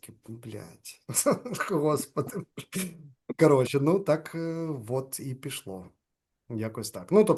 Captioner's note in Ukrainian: сміється